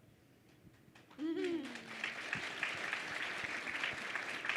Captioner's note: crowd clapping